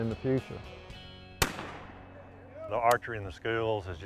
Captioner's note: gun shots